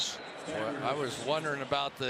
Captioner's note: whistle